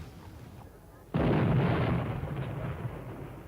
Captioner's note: explosion